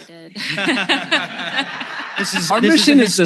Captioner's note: laughs